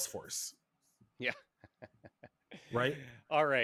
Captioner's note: laughs